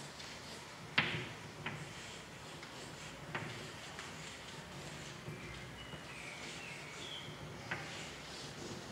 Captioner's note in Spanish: sonido de tiza escribiendo